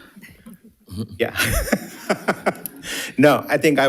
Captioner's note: participants laughing